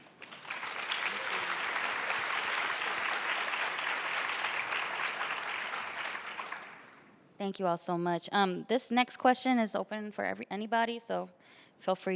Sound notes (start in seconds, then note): 4.5 applause